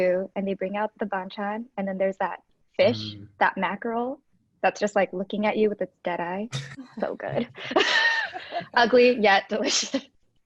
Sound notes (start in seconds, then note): 7.2 laughing